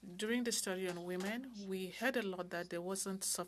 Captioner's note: speaking French